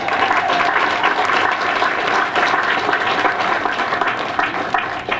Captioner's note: applause